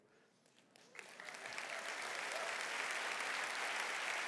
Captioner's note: clapping